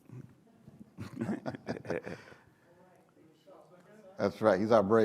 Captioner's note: laughing